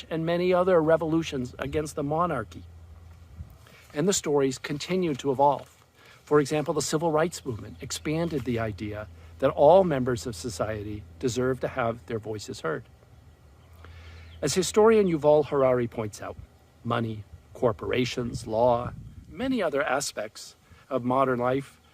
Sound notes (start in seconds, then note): none